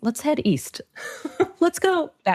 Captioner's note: laughing